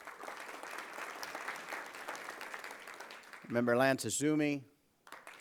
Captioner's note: applause